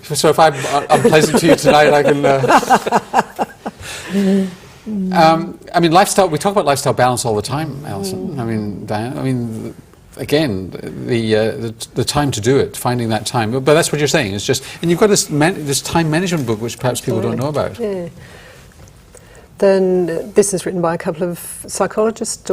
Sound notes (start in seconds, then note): 2.3 all laugh